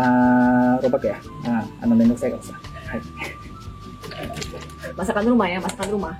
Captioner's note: laughs